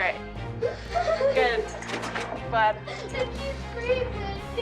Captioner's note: sobbing